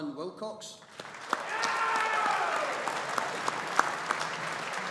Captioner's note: audience applauding